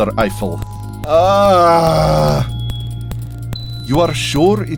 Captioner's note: Eiffel groans again